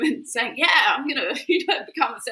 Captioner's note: chuckles